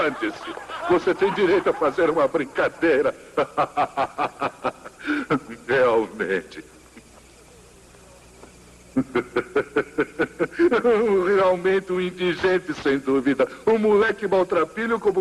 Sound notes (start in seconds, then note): 5.9 continues laughing